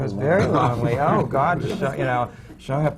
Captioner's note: laughter